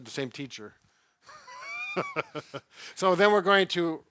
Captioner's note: laughs